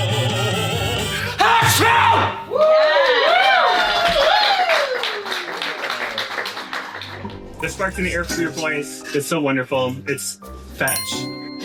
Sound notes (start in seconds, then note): 0.0 singing; 4.4 cheers